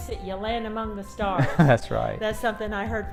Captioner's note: laughs